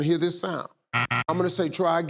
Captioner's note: machine beeping